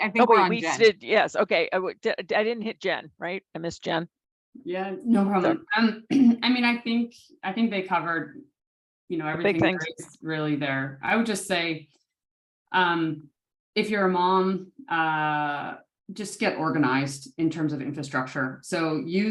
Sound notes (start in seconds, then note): 6.0 cough